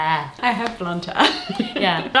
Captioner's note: laughs